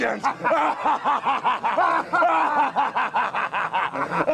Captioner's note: both laughing